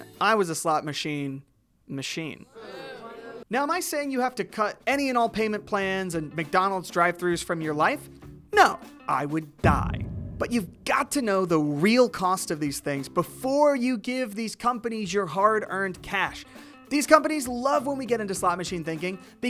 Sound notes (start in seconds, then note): 2.6 audience booing